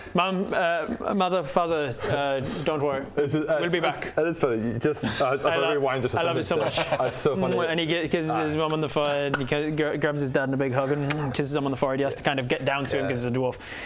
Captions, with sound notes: Mum er Mother, Father don't worry - we'll be back - is it, that's funny just if I rewind just to say that to him I love you so much it was so funny and he kisses his Mum on the forehead and he he grabs his Dad in a big hug and *mwah* kisses him on the forehead he has to kind of get down to him because he's a dwarf